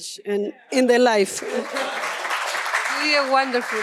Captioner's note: applause